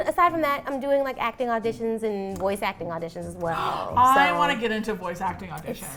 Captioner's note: gasps